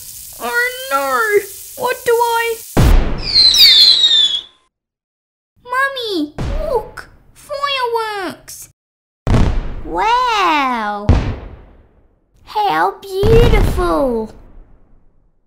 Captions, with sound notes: Oh no! What do I... (Explosion!) Mummy! Look! Fireworks! Wow! How beautiful!